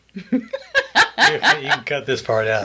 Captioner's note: laughing